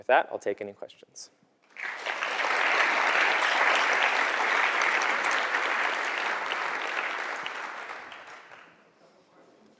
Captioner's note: applause